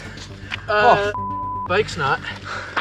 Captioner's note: beeps